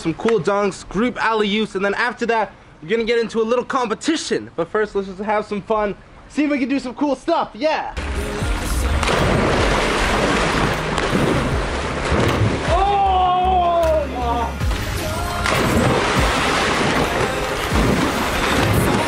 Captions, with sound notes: some cool dunks, group alley-oops, and then after that we're gonna get into a little competition. But first, let's just have some fun, see if we can do some cool stuff, yeah! (dramatic music) (cheering)